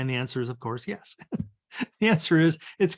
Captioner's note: chuckles